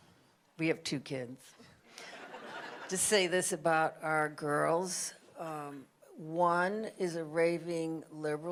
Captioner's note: audience laughter